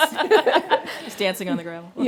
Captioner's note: laughing